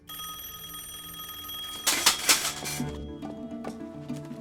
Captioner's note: telephone rings